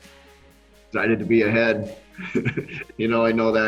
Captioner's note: laughs